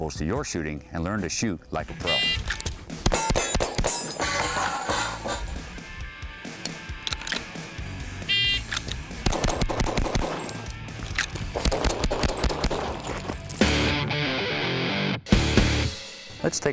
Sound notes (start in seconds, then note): 2.9 gun shooting; 5.8 upbeat music; 9.2 gun shooting; 13.7 upbeat music